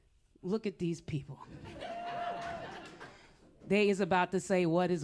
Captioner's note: laughter